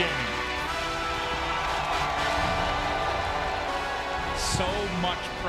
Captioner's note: crowds cheering as music fades